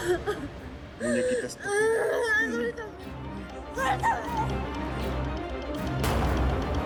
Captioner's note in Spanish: Entre sollozos